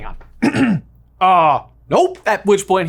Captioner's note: clears throat